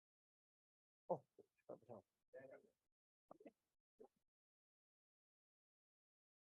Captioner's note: faintly speaking